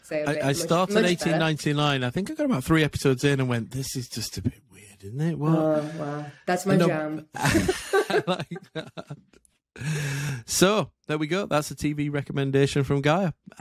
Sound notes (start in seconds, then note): 7.3 laughing